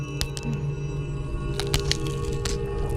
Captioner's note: crackling sounds